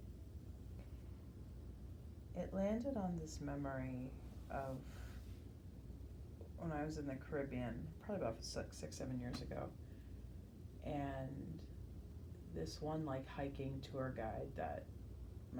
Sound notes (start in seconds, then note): none